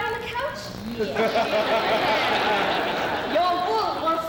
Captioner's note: laughter